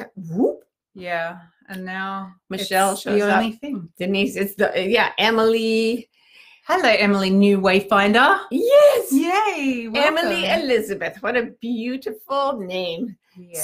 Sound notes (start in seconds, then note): none